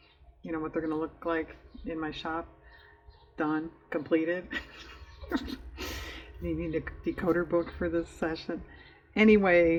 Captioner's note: laughs